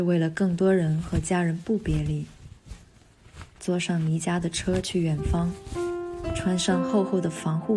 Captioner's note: sample 3: The sound of removing hazmat suit